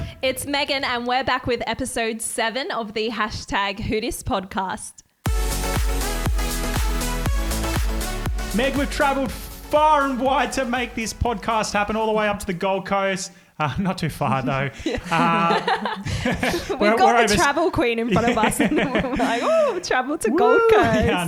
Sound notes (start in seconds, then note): 5.2 upbeat music; 14.8 both laugh